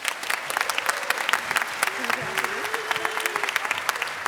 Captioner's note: applause